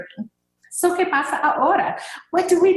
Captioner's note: speaking in a foreign language